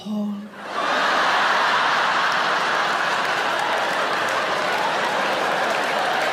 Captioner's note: audience laughing and applauding